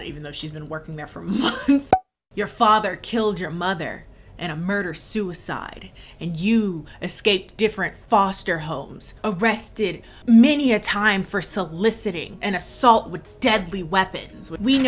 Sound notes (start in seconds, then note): 1.7 chuckling; 1.7 popping